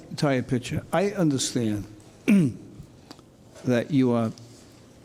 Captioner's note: clears throat